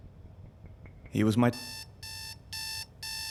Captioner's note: alarm blaring